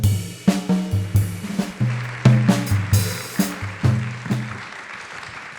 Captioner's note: audience applauding